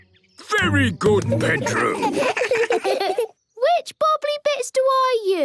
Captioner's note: children giggle